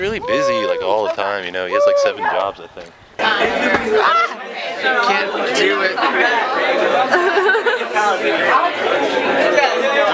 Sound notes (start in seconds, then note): 3.6 girl laughs; 3.6 people chattering